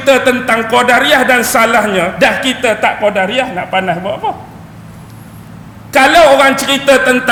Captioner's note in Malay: ketawa